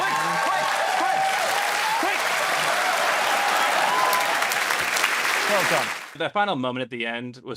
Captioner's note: laughing and cheering